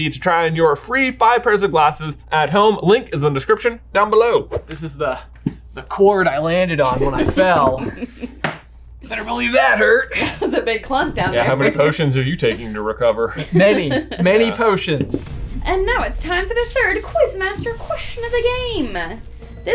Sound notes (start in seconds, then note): 6.8 chuckles